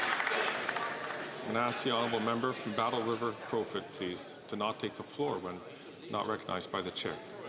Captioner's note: some Applause